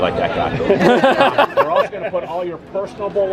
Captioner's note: all laughing